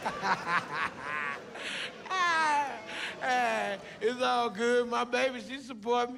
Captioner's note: laughs